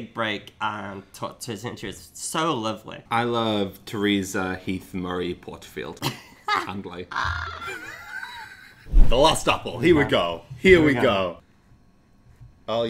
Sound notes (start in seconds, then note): 7.1 laughs; 7.1 both laughing